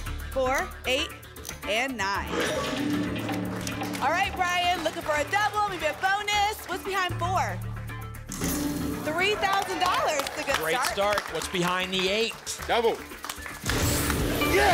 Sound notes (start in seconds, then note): 2.5 lock sound